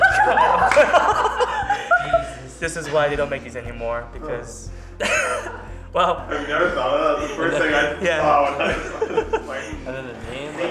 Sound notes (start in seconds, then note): 0.0 laughing; 5.0 laughing